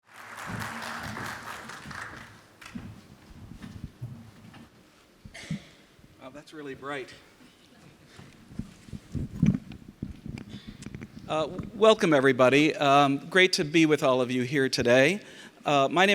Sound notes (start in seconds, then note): 0.0 audience applauds